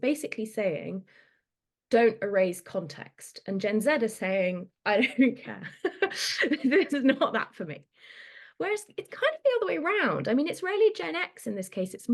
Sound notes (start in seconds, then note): 4.8 laughs